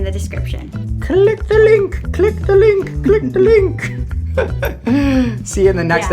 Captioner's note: laughs